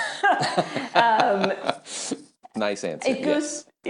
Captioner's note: both laughing